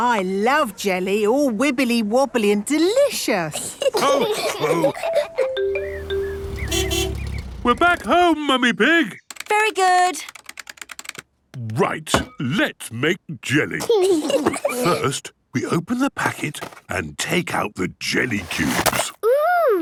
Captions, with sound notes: - I love jelly! All wibbly-wobbly and delicious! (laughs) (horn honking) - We're back home, Mummy Pig! - Very good! - Right! Let's make jelly! (giggles) First, we open the packet and take out the jelly cubes.